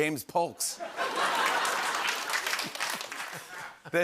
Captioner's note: laughter and applause